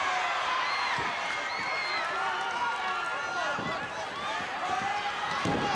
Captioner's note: audience cheering